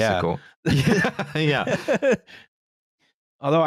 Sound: laughter

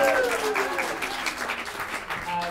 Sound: applause

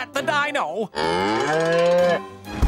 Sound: mooing

